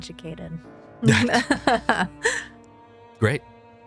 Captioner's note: laughs